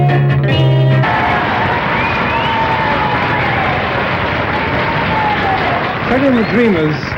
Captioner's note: cheers and applause